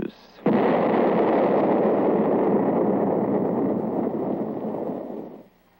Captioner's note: explosion